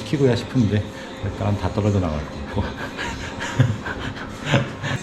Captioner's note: laughs